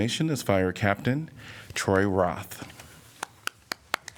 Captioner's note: applause